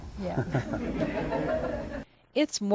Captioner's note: audience laughs; laughs